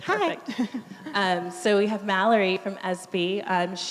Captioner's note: chuckling